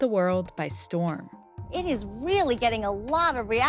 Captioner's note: soundbite of archived recording